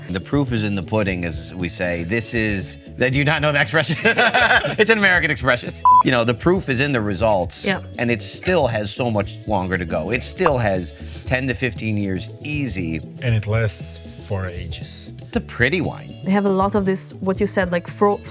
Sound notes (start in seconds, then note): 3.8 laughing